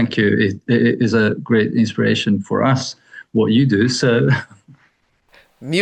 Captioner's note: chuckles